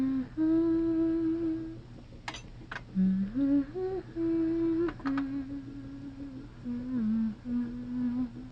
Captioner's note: humming